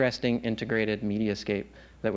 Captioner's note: none